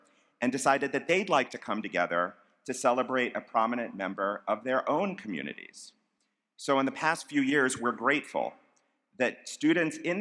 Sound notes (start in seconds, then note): none